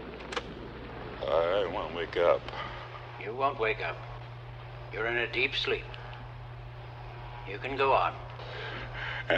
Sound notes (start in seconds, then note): 0.2 tape recorder clicks